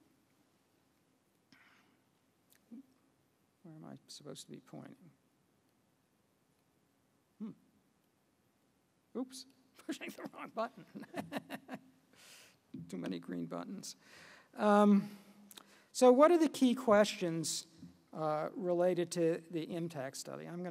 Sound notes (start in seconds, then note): 9.9 laugh